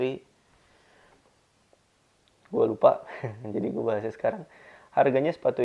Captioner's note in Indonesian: hehehehe